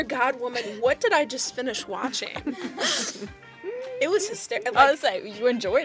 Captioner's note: laughter